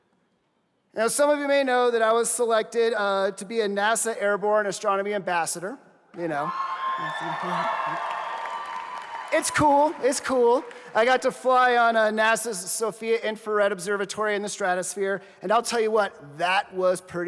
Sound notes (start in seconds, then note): 12.8 applause